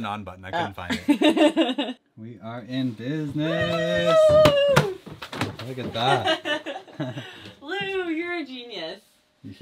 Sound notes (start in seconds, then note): 3.4 cheering